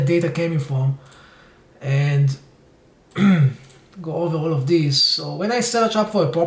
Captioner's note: clears throat